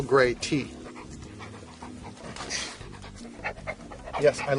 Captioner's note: dog panting